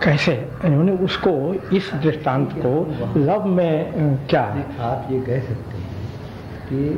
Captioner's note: discussion In Hindi